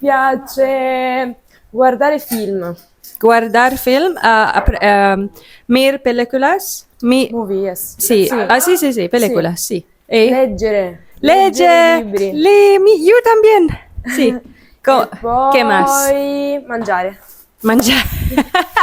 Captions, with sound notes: I like to watch films *repeats in Italian* You mean watch movies? Yes! Reading books Me tooo What else? Eating..